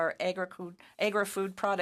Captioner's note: speaking in French